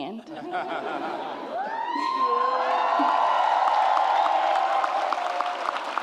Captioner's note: laughter and audience cheers